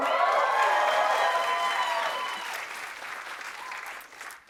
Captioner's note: cheers and applause